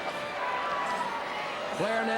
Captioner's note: crowd cheering